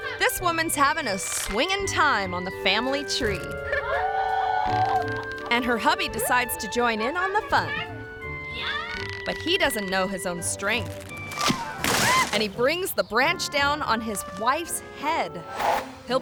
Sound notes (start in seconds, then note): 3.2 rope creaks; 10.6 tree branch crunches; 10.8 tree branch thuds; 12.0 wife screams